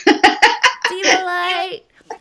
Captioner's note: laughing